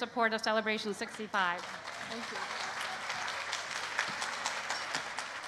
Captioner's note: applause